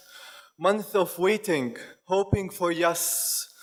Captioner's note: none